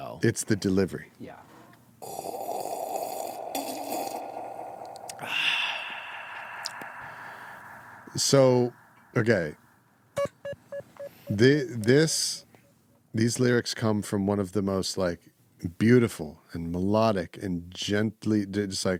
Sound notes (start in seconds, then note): 10.2 beeping